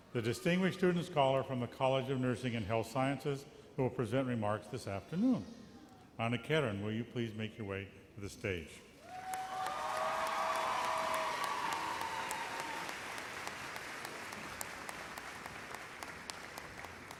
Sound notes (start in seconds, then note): 9.0 applause